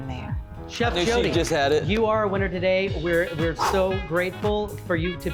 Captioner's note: laughs